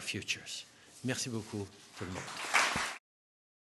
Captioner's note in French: Applaudissements